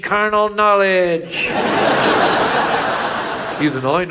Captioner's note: audience laughs